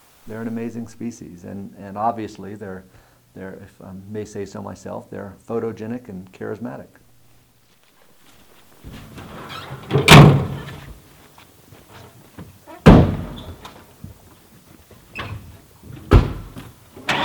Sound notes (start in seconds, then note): 9.8 tailgate shuts; 12.8 truck doors slams; 17.0 truck starts up and drives away